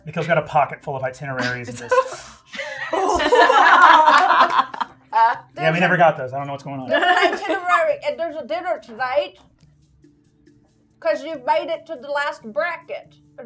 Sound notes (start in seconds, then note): 2.5 gamers laughing